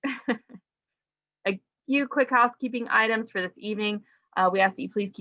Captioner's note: laughs